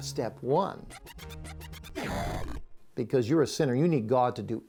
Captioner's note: barulho de vídeo game retrô